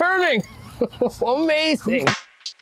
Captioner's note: laughter